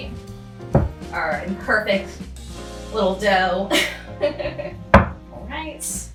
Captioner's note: laughs